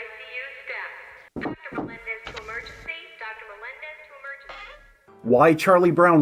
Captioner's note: knocking